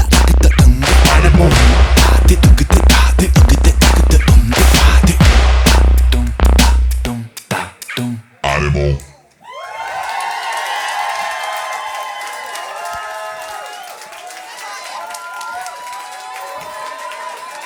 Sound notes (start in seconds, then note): 9.4 cheers and applause